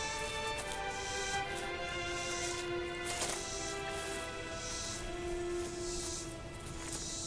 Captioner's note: leaves crunching; melodic music